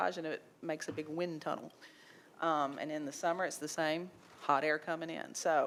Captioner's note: none